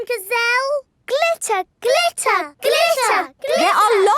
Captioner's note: chanting